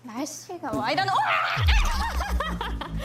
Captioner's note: screaming; laughing